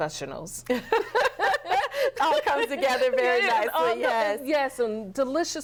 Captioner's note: laughter